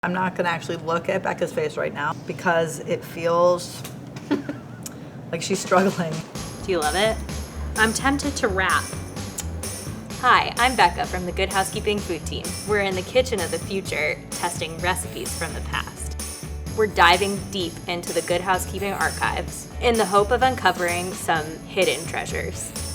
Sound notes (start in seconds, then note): 4.2 laughs; 9.3 smooch